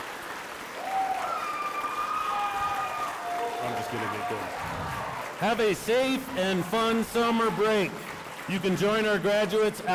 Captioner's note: cheering and applause